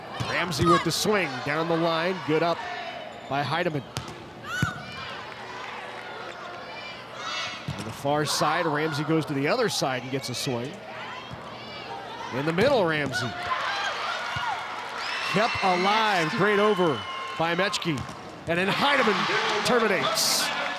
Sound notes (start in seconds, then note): 4.0 ball thumping; 5.1 players shouting indistinctly